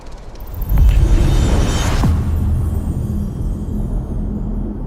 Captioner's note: dramatic sound